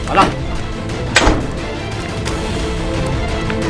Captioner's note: Door closes